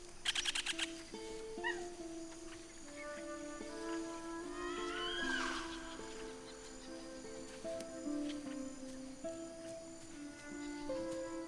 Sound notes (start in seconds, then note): 4.4 creature howls